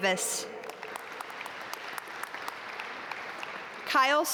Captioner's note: audience applaud